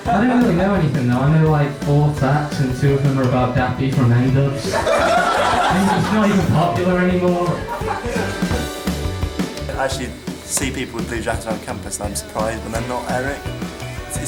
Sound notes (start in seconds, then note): 4.6 laughter